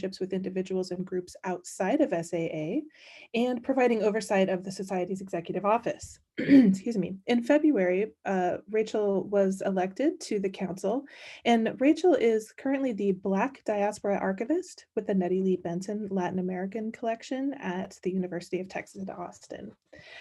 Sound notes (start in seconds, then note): 6.4 clears throat